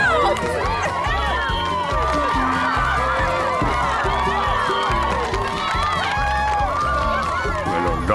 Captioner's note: cheering